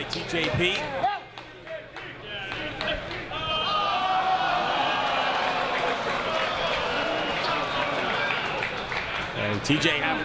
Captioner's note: applause